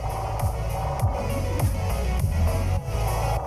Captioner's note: disorienting warble